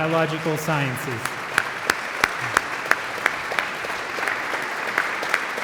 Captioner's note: audience applauds